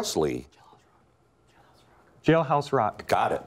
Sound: whispering

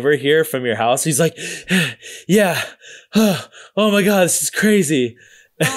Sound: gasping

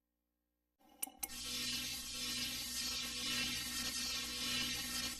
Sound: electricity zapping

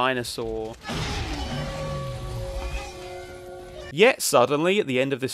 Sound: dinosaur roaring

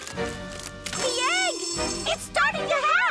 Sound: cracking

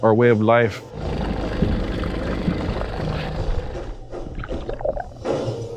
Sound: boad engine; live Native American Music

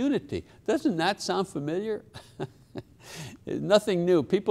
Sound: chuckles

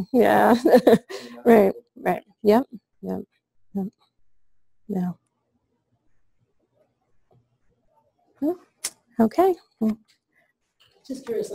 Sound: pause

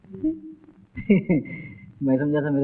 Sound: chuckles

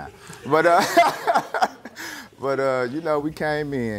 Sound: laughter

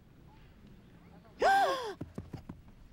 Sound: gasps

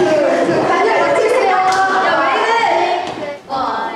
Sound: hahahaha

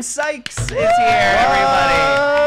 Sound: clapping and cheering

